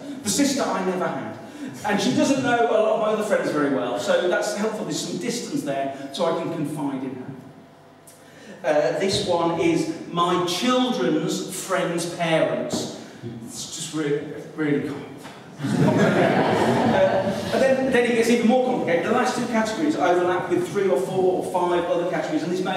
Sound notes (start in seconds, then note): 15.6 laughter